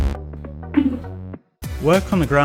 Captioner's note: giggles